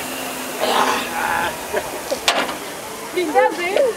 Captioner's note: participant grunts; trainer grunts